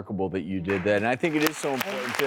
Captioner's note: applauding